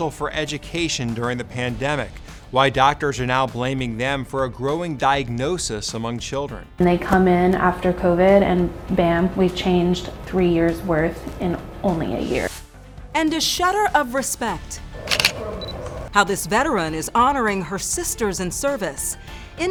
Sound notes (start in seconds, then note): 15.0 camera clicks